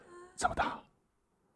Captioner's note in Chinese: 小聲